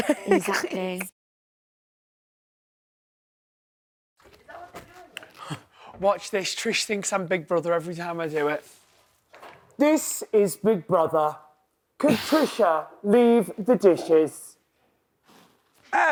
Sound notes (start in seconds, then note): 0.0 laughs; 9.5 imitating big brother